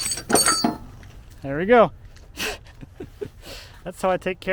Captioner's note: laughs